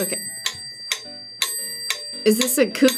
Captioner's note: bell rings; metronome clicks